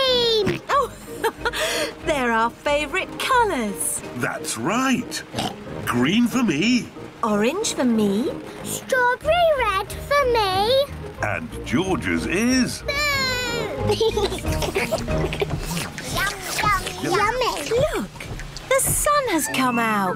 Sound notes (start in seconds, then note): 0.5 laughs; 5.3 oinks; 14.2 all slurp